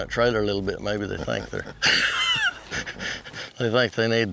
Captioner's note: laughs